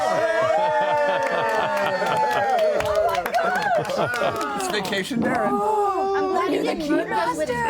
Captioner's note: cheering